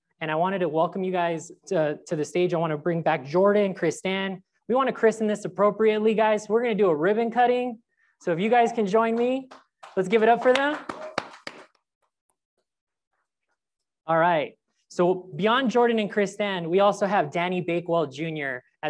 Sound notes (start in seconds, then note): 9.8 crowd applauds